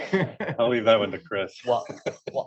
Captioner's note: laughs